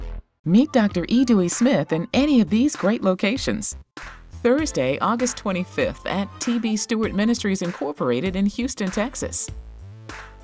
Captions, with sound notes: - [Voiceover] Meet Drwe. E Dey Smith in any of these great locations. Thursday, August 25th at T.B. Stewart Ministries Incorporated in Houston, Texas.